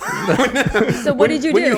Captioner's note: laughing